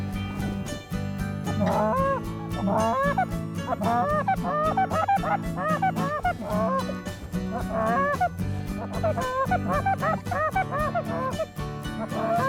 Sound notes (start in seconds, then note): 2.4 goose calls